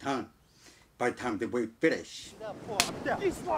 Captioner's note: hands smacks